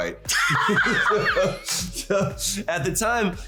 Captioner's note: laughing